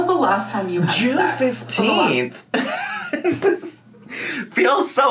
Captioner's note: laughs